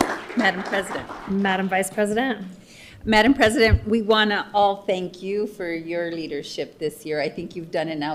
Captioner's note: applause